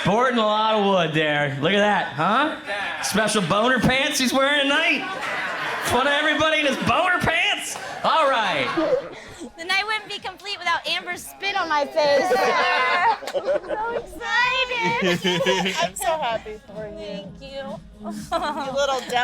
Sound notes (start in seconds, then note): 13.1 groan